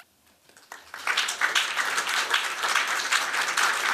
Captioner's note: applause